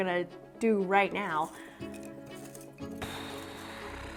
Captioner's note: nervous sigh